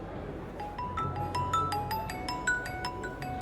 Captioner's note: mobile ringing